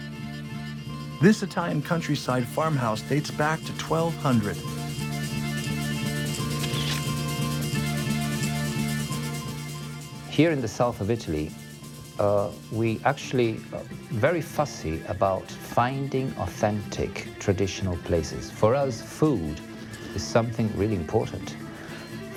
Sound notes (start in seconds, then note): 5.1 lively music; 6.5 camera flashing